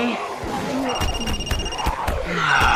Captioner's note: phone rings